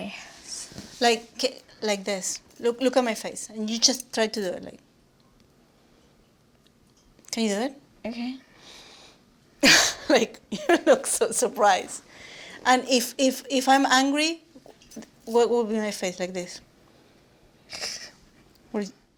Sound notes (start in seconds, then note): 9.2 laugh